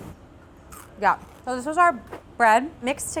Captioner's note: bread crunching